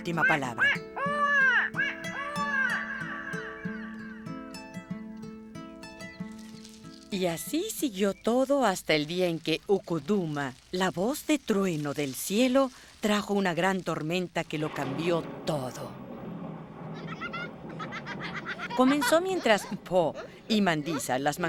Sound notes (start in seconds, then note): 0.0 chirping; 1.6 echo